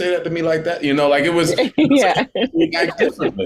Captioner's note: laughing